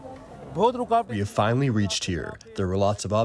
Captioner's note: through translator